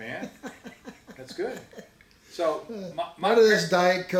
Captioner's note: laughs